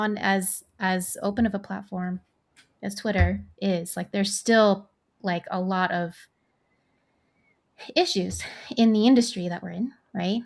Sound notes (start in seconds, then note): none